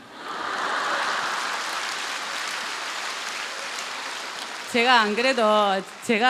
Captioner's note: questioner/Audience Laughter